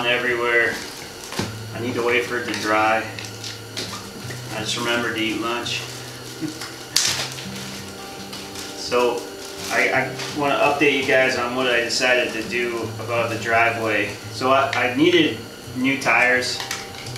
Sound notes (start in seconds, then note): 6.2 laughs